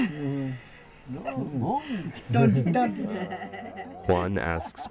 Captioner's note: speaking foreign language